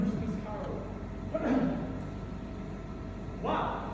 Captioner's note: ahem